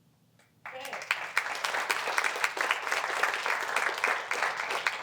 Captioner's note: applause